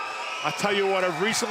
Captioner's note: cheers & applause